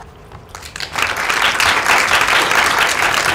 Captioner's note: applause